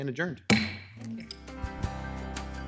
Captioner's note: gavel bangs; instrumental music